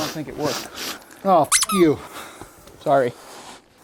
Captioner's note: sniff